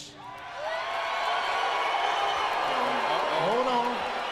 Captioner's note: crowd cheering